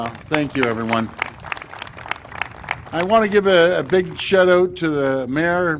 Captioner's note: applause